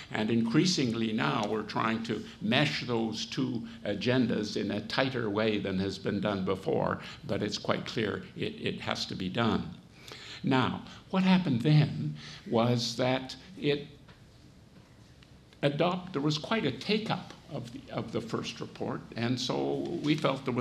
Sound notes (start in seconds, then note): none